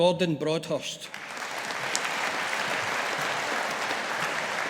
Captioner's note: audience applauding